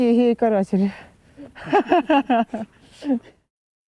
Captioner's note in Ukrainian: сміються